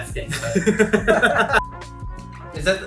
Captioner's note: laughter